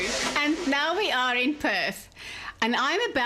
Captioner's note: narrating